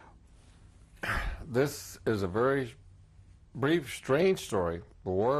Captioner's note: sighs